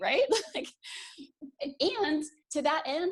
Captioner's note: laughs